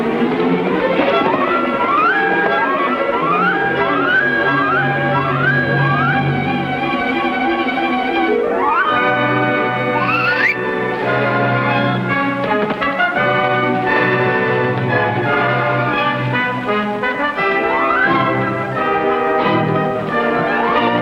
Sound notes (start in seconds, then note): 0.1 tense orchestral music; 10.8 Brave Eagle whistling; 14.2 tense orchestral music